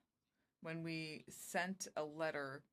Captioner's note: speaking French